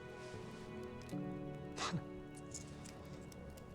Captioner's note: laughing